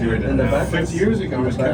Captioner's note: chatter